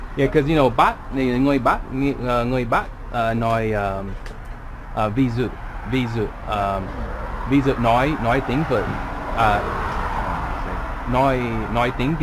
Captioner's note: northern Accent